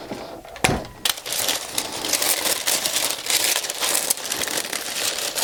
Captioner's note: paper crinkling